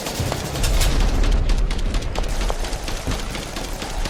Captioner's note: gun clicks